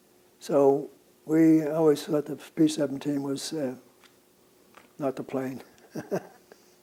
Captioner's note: laughs